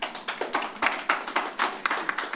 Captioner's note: applause